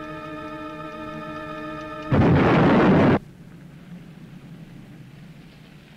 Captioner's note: explosion booming